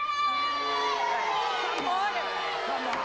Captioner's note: jeering